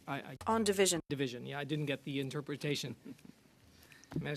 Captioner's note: speaking French